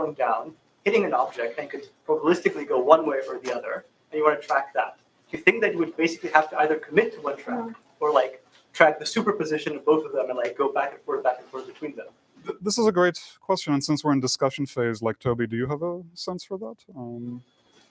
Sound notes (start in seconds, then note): none